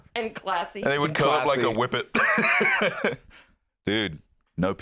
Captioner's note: laughs